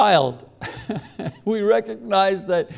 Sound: laughs

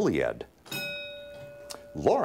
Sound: ding

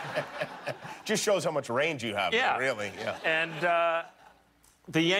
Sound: laughter

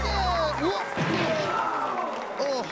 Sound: thud

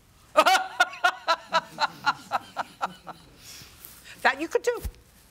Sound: laughs

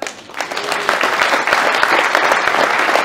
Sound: hand clapping

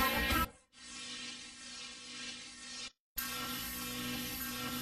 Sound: electricity zapping

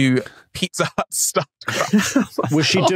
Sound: group cracks up

